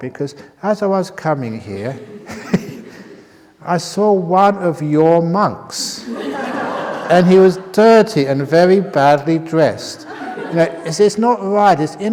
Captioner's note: laughter